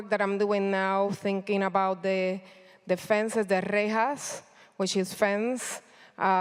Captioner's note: speaking in foreign language